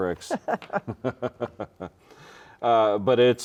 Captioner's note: both chuckle